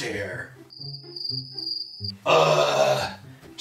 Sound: crickets Chirping

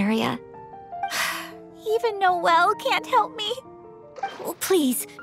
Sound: sigh

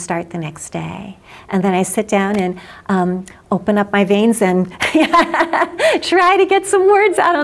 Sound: laughs

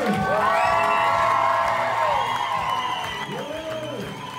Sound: audience cheers

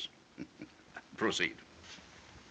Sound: chuckles

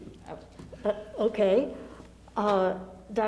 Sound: laughs

